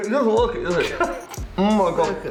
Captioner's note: laughs